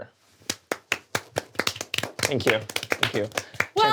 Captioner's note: all applaud